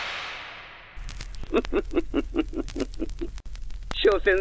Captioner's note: laughs